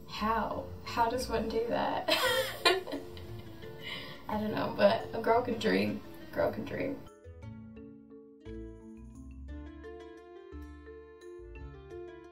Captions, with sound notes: How? How does one do that? (laughing) I don't know, but a girl can dream, girl can dream. (playful music)